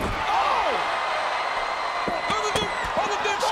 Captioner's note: audience cheers